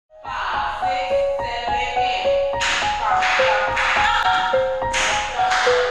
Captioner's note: clapping